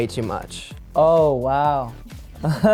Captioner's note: laughs